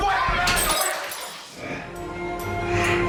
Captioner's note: arguing; object smashes